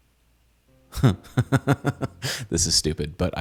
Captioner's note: laughing